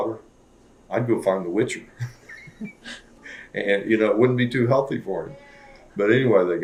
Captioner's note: laughter